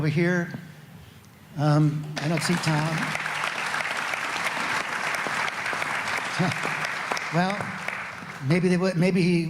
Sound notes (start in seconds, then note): 5.6 applause